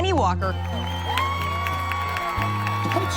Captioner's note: crowd cheering